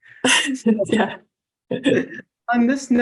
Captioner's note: chuckles